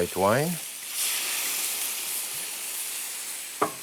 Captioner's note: sizzling